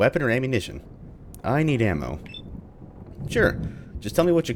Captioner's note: thunder